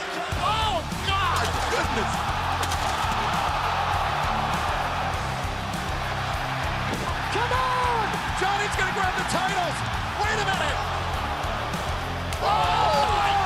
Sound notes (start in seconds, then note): 2.6 crowd cheering